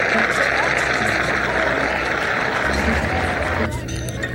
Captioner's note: crowd applauds; laughs; Arthur narrates in distance; ominous ambient music